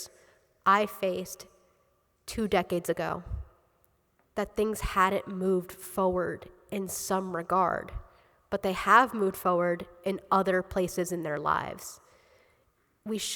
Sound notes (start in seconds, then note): none